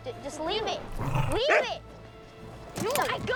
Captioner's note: barks